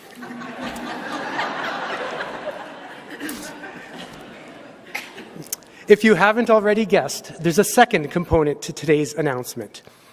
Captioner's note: laughter